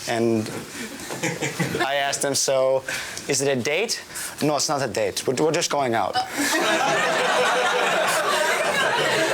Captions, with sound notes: and I asked him, "So, is it a date?" "No, it's not a date. "We're just going out." (laughing)